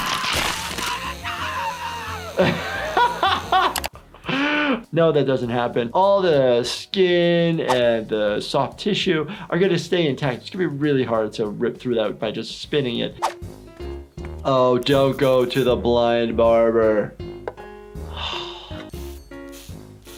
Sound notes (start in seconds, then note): 0.0 Lumpy screaming; 2.5 laughing; 17.5 mellow music